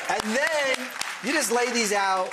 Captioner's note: clapping